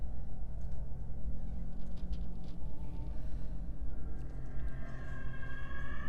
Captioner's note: muffled creaking and rattling